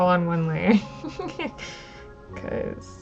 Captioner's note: laughs